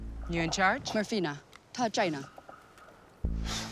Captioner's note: speaking mandarin